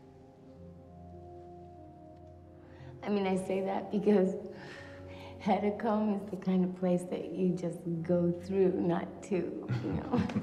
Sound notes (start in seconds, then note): 4.8 exhales